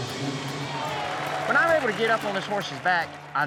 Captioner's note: cheering, applause